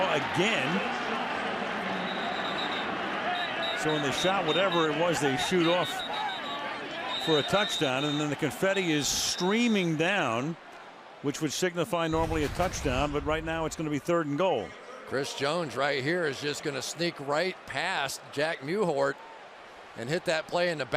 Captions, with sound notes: Bradshaw again. [whistle] Showing the shot whatever it was they shoot off for a touchdown. And then the confetti is streaming down, which would signify normally a touchdown. But right now, it's going to be third and goal. Chris Jones right here is just going to sneak right past Jack Mewhort and hit